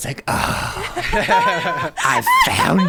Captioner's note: players laughing